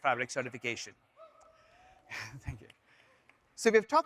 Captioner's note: laughs